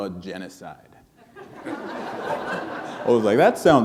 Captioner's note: laughter